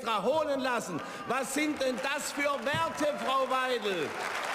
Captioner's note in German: Beifall